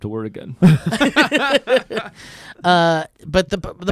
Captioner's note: laughing